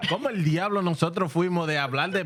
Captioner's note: speaking Spanish